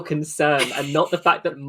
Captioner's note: laughs